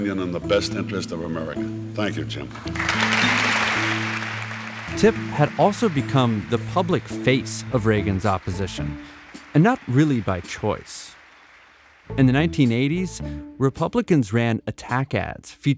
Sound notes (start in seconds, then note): 3.5 crowd applauds